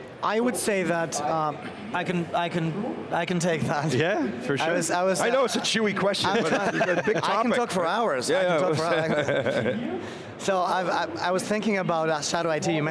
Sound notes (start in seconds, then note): 6.2 laughing